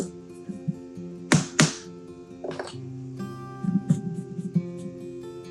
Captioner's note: hammer banging; mellow music continuing